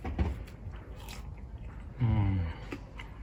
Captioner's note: crunching